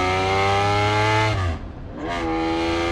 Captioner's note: engine roars